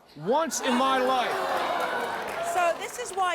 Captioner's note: audience groans